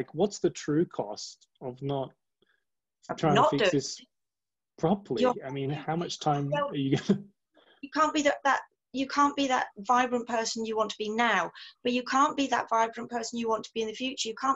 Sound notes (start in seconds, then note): 6.7 laughs